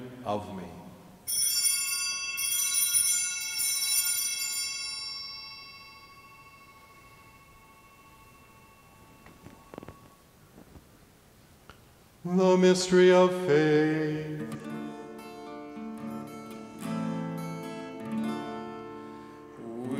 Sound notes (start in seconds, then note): 1.2 bellringing